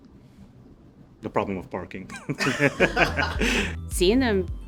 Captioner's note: laughing